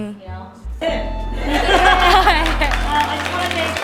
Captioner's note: audience applauds